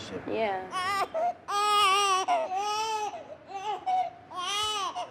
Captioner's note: crying